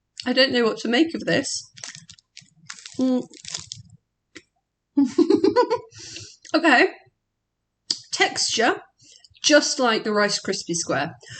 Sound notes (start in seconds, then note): 5.0 laughing